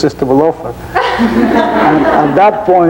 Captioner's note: audience laughing